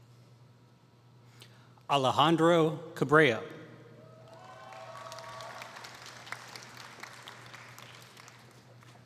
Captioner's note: applause